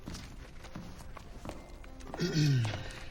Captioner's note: Sam clears throat